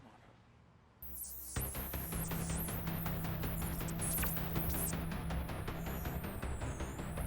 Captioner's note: adventurous music; digital whirring